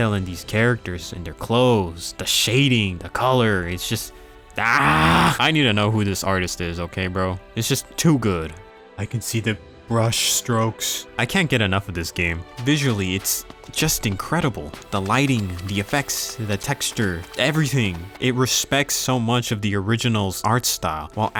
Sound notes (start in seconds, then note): 4.6 screams